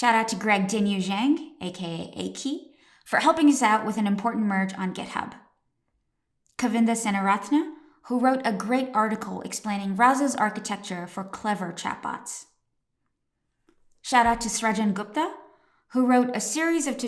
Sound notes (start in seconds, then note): 1.1 foreign language; 6.6 foreign language